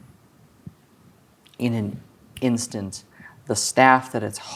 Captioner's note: snaps